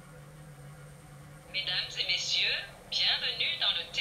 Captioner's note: french